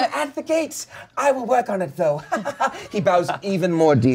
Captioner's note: laughs